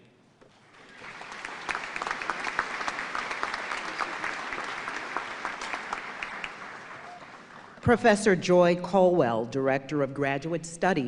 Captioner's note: applause